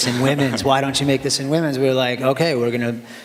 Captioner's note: laughter